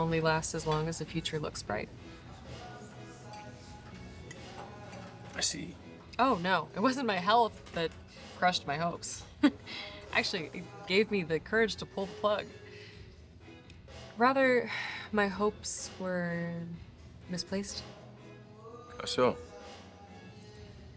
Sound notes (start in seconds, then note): 9.4 laughs; 15.1 sighs